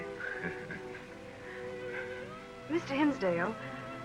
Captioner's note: laughs